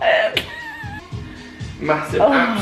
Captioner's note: laughing